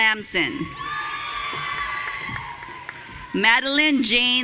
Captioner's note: audience cheering